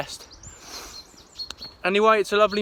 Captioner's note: sniffles